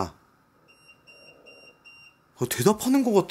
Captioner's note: beeping